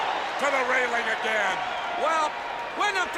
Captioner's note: audience cheers